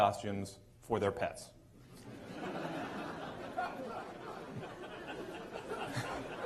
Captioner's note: laughter